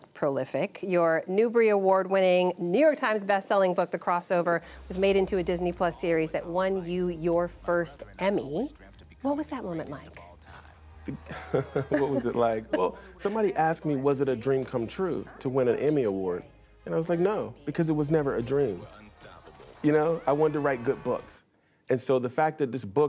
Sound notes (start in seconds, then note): 11.2 laughter